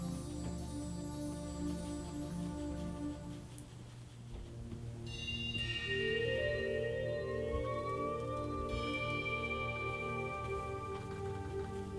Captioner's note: light tapping; slightly louder tapping